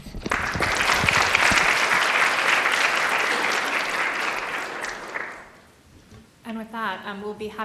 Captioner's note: applause